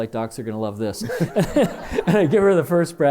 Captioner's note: laughter